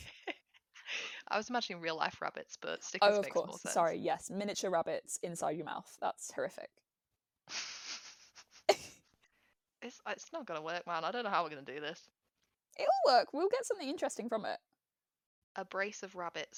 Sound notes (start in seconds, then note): 7.5 both laugh